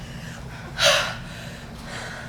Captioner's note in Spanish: Exhalan